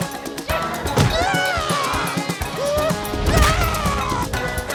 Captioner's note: groans